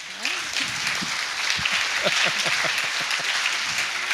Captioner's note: applause